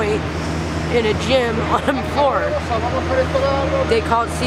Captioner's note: laughs